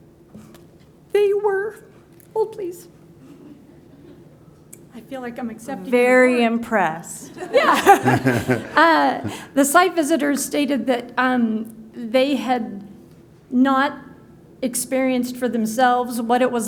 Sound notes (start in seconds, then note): 7.4 laughter